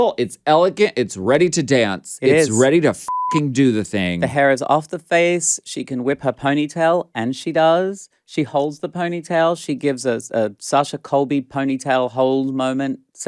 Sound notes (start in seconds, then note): 3.0 beep